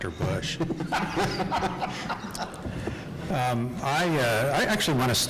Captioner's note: laughing